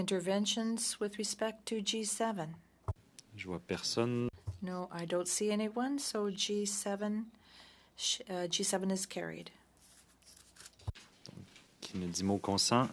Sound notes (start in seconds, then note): 2.2 speaking French